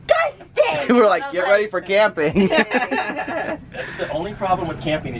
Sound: laughs

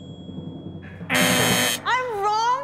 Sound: buzzing

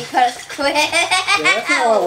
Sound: laughing

